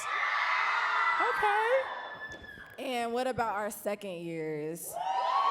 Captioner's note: audience cheering, for real this time